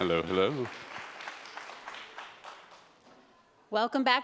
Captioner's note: applause